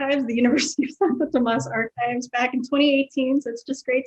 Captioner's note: laughs